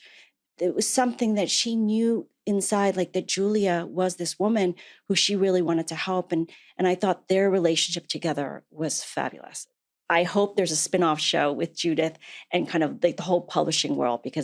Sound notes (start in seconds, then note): none